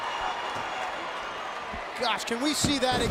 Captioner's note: crowd murmuring